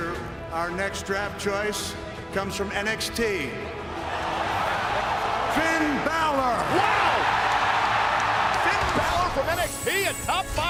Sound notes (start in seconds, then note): 6.6 crowd cheering